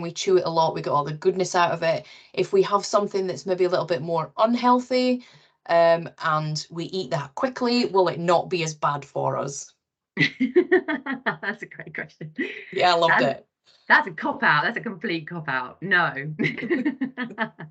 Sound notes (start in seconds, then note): 10.3 laughs; 16.4 giggling